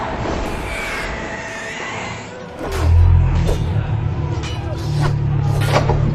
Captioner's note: sword fighting sounds; door opens